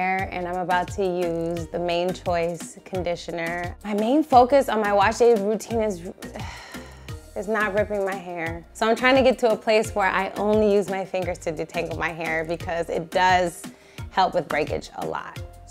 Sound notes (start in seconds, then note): 6.4 sighing